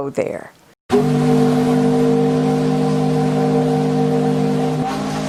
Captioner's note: ship horn blows